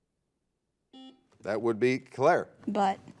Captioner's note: buzzer